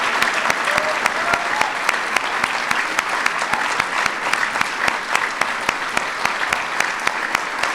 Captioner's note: applause